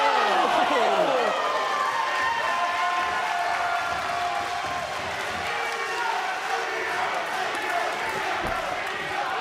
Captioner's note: crowd cheering